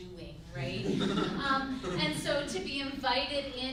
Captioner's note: group laughs